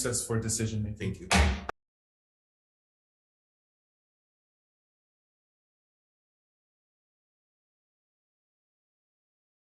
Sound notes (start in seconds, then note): 1.2 gavel bangs